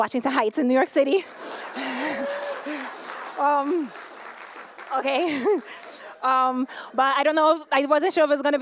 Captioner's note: laughter